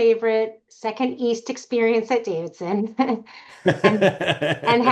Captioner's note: chuckles; laughing